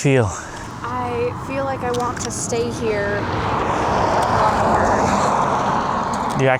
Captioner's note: cars passing in the background